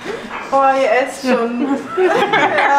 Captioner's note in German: Lachen